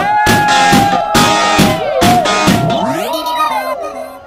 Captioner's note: Door Closes